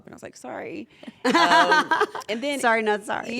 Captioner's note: laugh